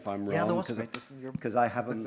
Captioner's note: mumbles